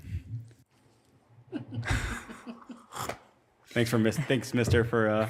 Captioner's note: all laughing